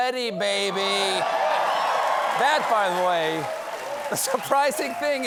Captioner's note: cheers and applause